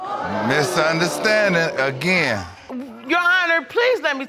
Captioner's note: crowd gasping